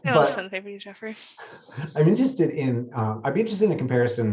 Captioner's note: chuckles; speaks faintly